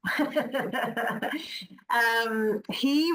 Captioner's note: laughs